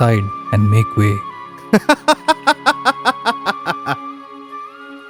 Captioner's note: hysterical laughter